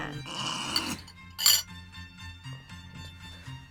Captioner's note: laughs